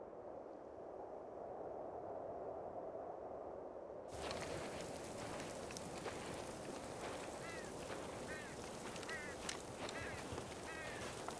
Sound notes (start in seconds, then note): 0.1 wind howling; 7.8 bird cawing